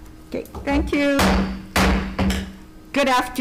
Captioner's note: gavel pounding